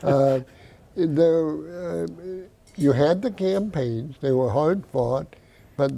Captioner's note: laughing